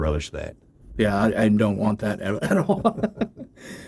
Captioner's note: laughs